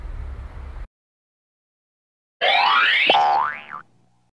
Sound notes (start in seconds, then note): 2.4 boink!